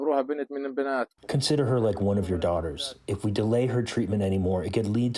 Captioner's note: through translator